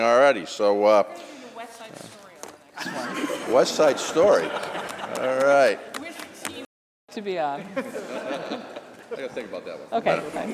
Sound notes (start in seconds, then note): 7.6 laughter